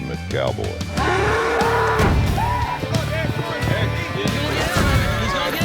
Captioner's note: bull lowing